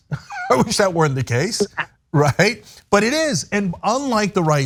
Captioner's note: laugh